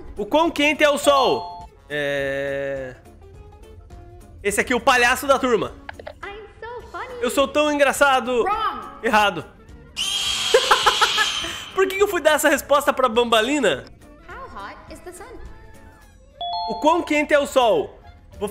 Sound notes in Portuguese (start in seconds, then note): 10.5 risos